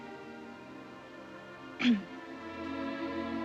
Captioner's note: coughing